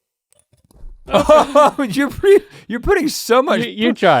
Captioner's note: Rhett laughs